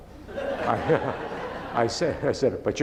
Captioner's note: laughing